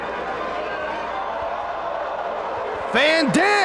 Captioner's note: spectators exclaiming